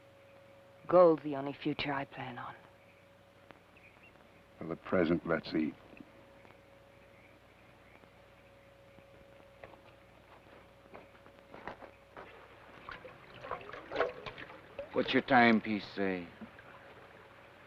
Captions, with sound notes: - Gold's the only future I plan on. - Well, at present, let's eat. (water swashes) - What's your timepiece say?